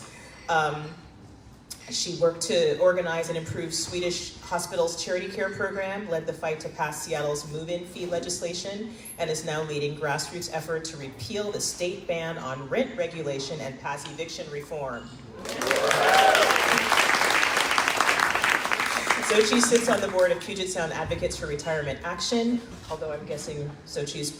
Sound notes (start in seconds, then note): 15.4 crowd clapping